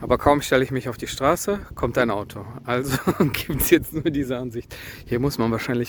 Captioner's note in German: gelächter